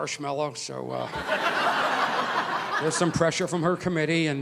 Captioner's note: audience laughing